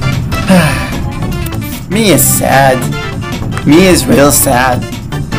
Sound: sigh

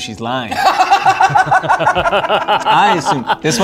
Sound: laughter

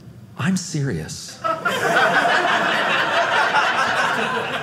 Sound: audience laughing

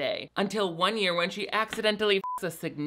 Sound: beep

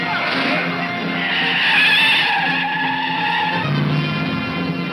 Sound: tires squealing

